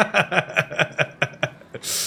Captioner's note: laughing